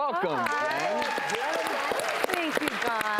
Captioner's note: applause